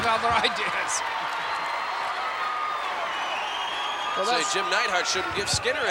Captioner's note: crowd cheering